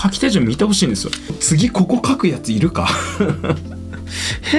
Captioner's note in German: lacht